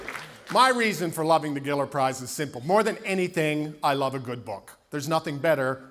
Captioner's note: applause